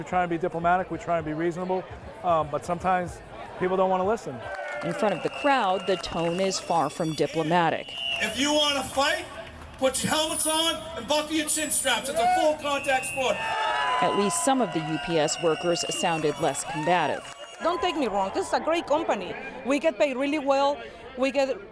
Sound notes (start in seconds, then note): 10.6 cheering and applause